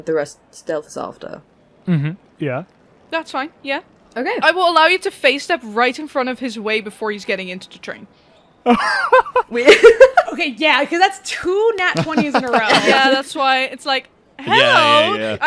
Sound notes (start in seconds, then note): 8.6 laughs; 11.9 laughter